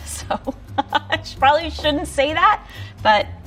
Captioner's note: chuckling